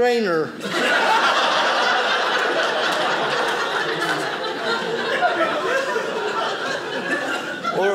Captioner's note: audience laughing